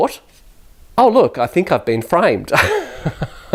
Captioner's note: laughs